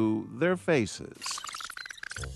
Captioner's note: sound effect